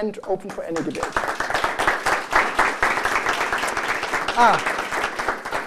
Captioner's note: applause